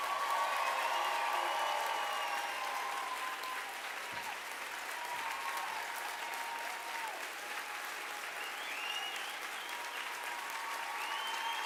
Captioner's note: applause